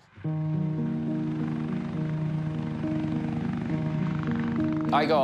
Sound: helicopter rotor blades whirr

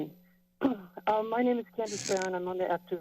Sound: clears throat; mic noise

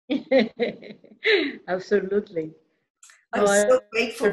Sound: laughter

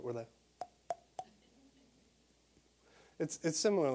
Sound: popping

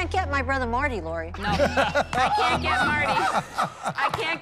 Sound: laughter

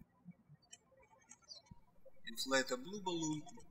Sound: birds chirping

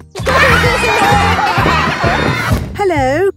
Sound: laughter

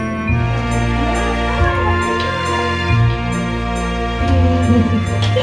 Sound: chattering

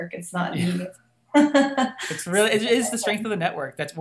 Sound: laughing

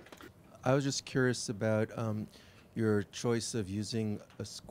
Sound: voiceover

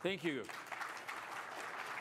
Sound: applause

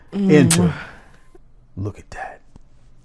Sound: woman blows kiss

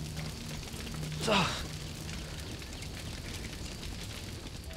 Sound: sighs

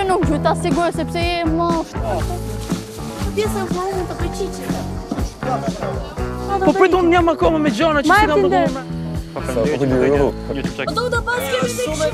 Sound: chattering

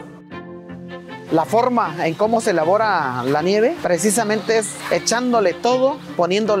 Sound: speaking in foreign language

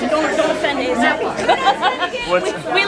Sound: laughing

